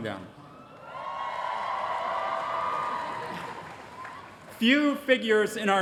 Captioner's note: applause